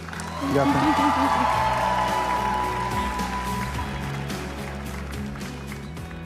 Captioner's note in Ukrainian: оплески